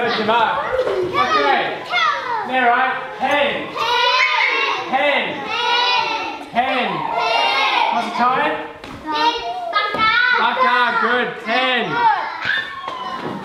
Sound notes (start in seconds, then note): 0.1 foreign language; 4.0 kids In Unison; 8.3 foreign language